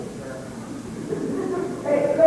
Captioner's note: laughter